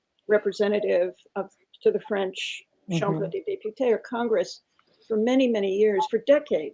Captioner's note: speaks french